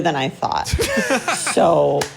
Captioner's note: laugh